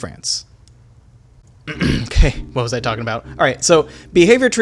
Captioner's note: clears throat